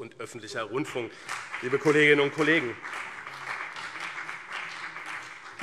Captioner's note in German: Beifall BÜNDNIS 90/DIE GRÜNEN und CDU